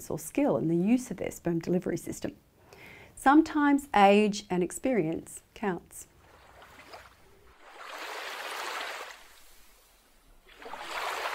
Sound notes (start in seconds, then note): 6.1 water splashing